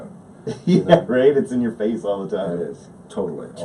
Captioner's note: laughs